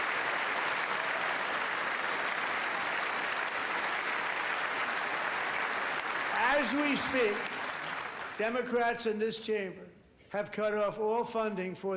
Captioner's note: applause